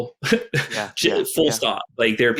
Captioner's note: chuckles